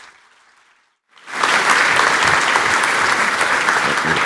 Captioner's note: applause